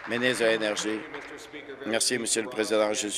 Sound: applause

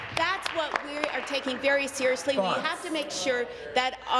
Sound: applause

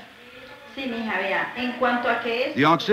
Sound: speaking Spanish

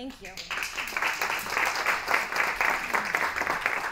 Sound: applause

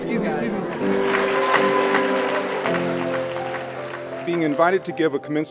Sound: applause, cheers

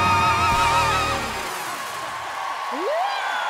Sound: cheering, applause

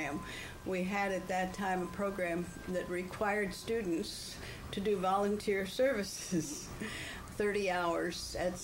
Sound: laughs

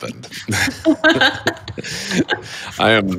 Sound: both laugh

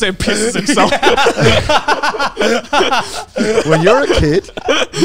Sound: all laughing

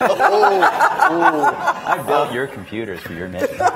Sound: laughing

